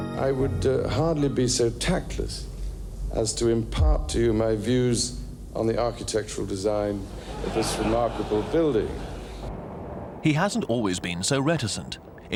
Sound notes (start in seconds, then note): 7.1 audience laughing